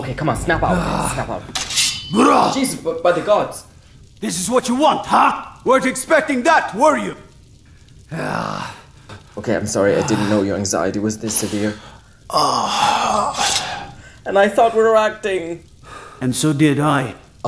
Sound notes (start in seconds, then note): 7.9 guard exhales